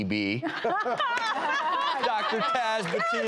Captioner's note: laughing